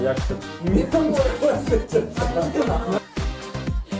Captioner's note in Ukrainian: сміх